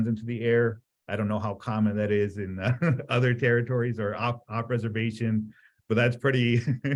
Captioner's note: laughs